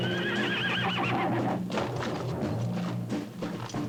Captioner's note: horse continues whinnying; hoof thuds